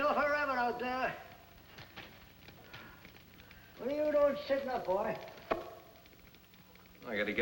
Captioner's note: none